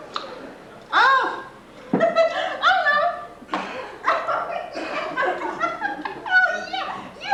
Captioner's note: laughing